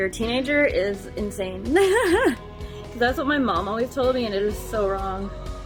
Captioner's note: laughs